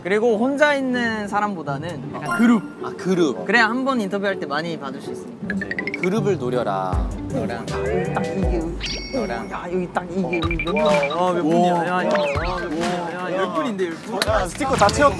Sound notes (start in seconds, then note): 11.4 crowd